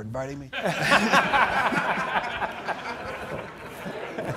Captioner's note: laughing